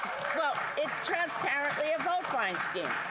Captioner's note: some Applause